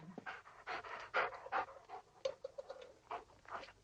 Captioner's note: dogs panting